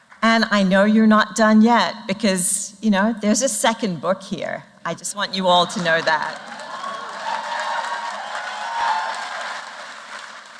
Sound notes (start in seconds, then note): 5.7 applause